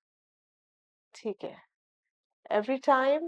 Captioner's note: in Urdu